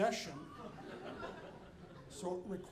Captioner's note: audience laughing